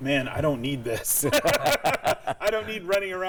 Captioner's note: all laughing